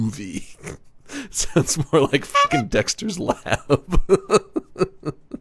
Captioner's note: laughing